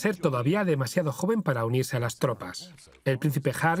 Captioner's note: voiceover